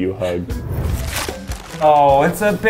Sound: paper ripping

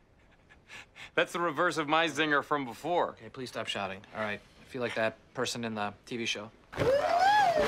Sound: laughs

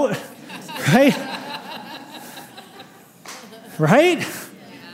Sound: laughter

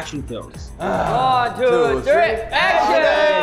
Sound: men grumble

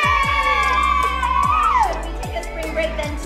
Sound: kids cheering

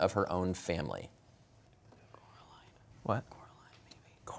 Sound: whispering; quietly; whispering

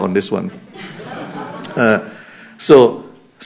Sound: laughter

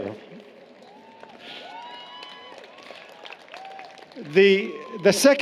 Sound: applause, Cheering

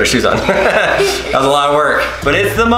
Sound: laughter

